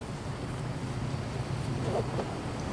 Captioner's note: wind blowing